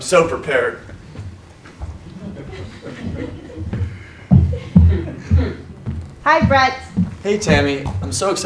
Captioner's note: laugh